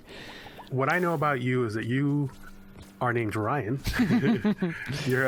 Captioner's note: laughs